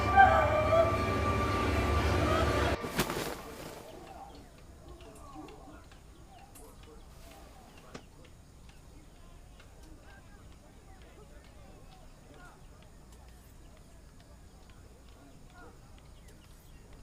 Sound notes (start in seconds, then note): 0.0 suspenseful music; 3.9 birds chirping